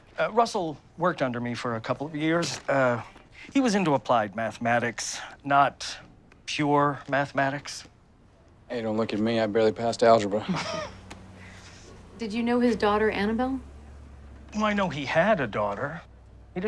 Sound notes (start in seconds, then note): 10.4 all chuckling